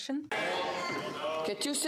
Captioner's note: speaking french